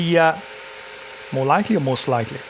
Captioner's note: buzzing